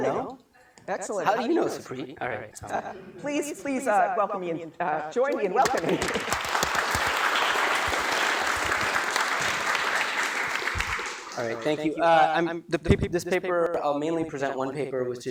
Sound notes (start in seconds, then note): 5.6 applause